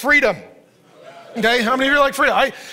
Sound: laughs; audience cheers

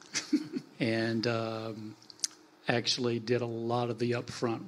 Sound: panelists laugh

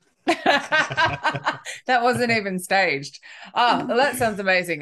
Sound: laughing

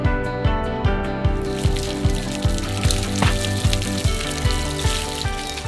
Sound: water spraying

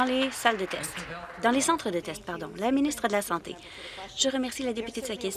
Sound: some Applause

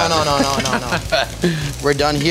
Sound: laughs

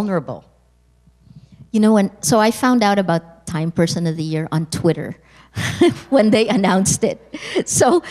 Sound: chuckle

